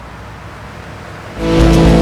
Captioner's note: engine noises